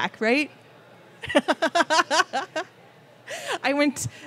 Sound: laughing

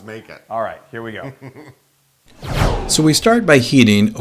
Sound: laugh

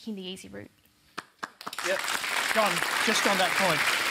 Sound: applause

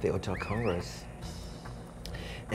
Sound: person whistling

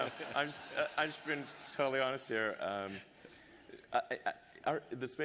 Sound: laughter

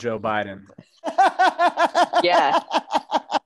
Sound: laughing

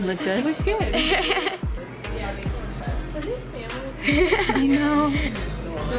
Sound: laughter

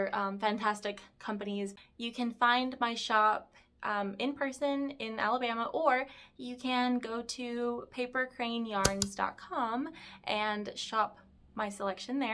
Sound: mouse click

